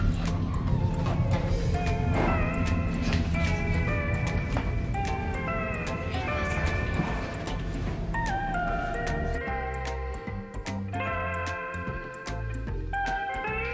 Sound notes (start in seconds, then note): 1.9 door slams in distance; 5.9 whispers; 11.1 upbeat music